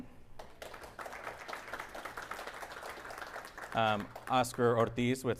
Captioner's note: audience applauding